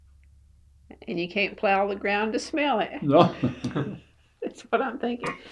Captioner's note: laughter